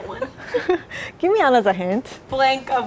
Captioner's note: laughing